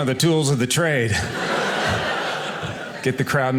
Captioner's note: audience laughing